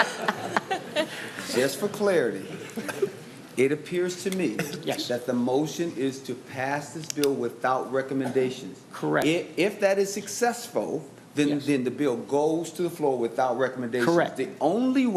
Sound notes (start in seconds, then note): 2.5 laughter